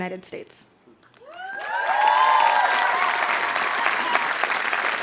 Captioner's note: audience applauds